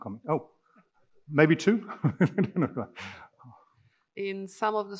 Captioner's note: laughing